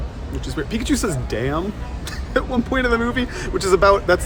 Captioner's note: laughs